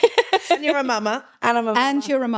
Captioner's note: laughs